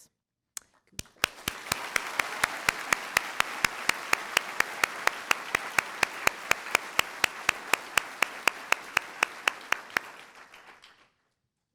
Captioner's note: applause